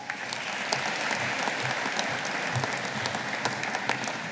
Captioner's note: audience applauding